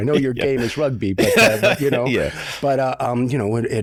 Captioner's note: chuckles